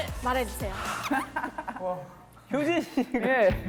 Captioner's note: laughing